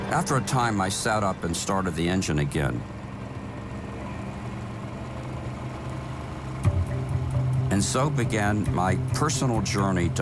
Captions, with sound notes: After a time, I sat up and started the engine again. (boat engine whirring) And so began my personal journey